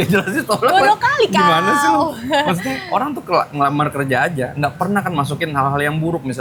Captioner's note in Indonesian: tertawa